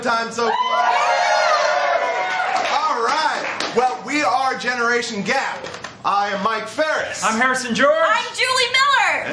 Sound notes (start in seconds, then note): 0.4 cheers & applause